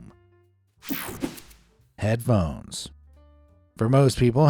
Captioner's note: air fizzing